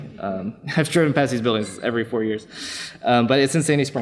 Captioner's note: laughs